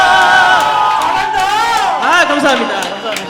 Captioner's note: seal claps